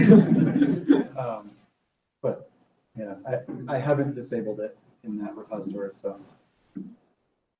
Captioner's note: laughing